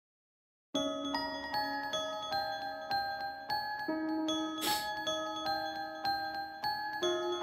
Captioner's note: gentle music; sniffles